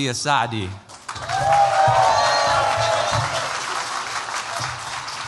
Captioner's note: cheers, applause